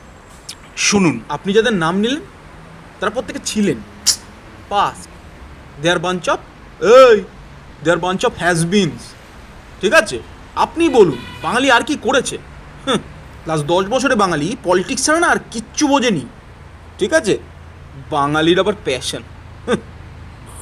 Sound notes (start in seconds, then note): 18.7 mocking